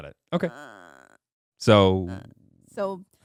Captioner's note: groaning